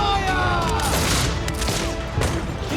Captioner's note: muskets firing